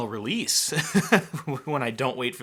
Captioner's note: laughs